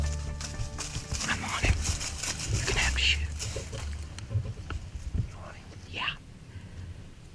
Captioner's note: whispering